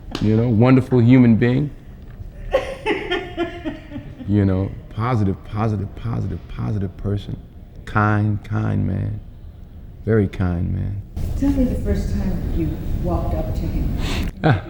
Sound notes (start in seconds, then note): 2.4 interviewer laughing